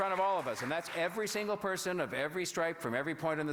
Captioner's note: applause